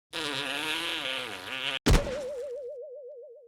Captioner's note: boing